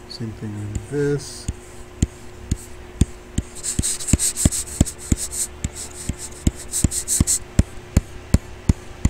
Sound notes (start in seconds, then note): 1.8 computer mouse tapping; 1.8 faint techno music